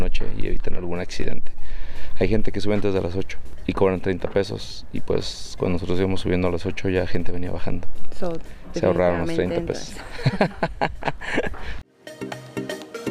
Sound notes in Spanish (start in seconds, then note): 9.9 risas